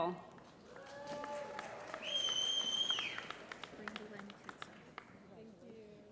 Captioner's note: applause